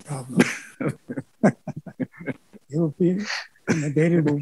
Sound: laughs

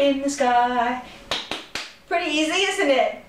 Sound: clapping

